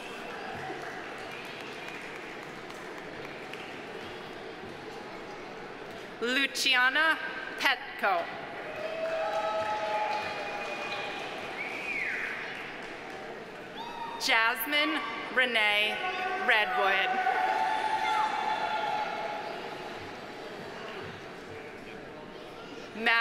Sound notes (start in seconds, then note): 0.0 audience applauding; 8.6 audience applauding; 8.6 audience cheering; 16.5 audience cheering; 17.1 audience applauding